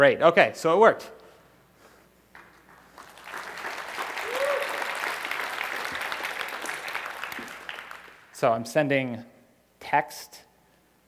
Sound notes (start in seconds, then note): 4.6 applause